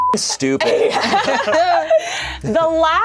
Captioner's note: beep; laughing